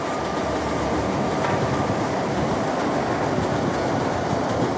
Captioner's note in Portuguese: assobio suave; barulho de trem